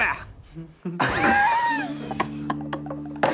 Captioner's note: laughing